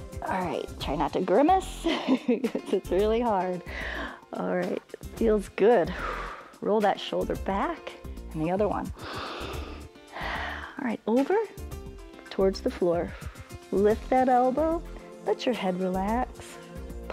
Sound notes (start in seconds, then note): 2.1 laughs; 3.6 exhales; 8.9 inhales and exhales